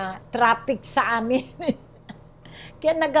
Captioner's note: chuckles